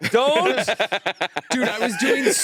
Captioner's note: laughing